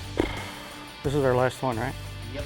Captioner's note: sighing